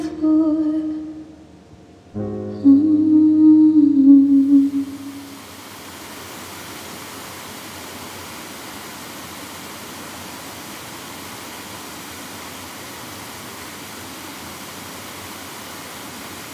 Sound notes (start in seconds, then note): 4.9 waterfall ambience